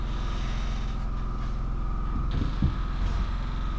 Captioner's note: motor whirring